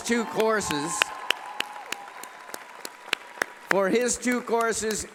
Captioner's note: cheering and applause